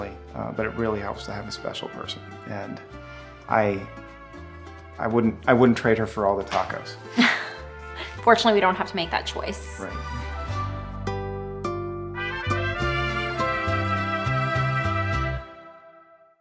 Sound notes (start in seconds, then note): 7.2 laughs